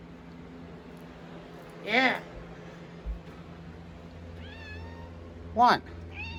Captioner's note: meows